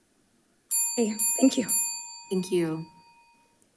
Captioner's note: bell dinging